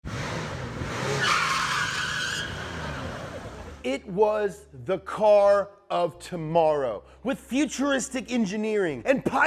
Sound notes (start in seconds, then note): 0.0 car engine revving; 0.1 brakes screeching